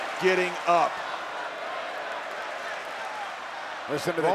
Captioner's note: audience chanting and clapping